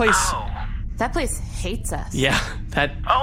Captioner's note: small laugh